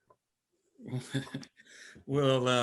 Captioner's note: chuckles